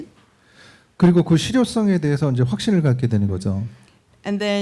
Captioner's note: speaking korean